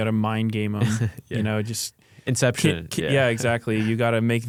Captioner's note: laughs